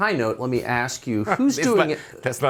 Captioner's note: laughter